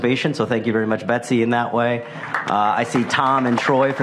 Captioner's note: applause